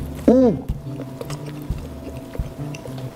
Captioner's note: chewing